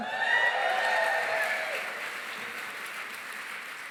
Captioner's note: cheering, applause